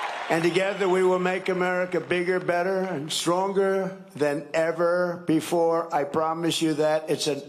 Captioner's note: cheering and applause